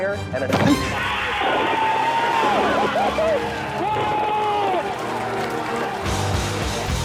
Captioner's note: cheers and applause